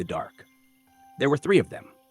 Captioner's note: pause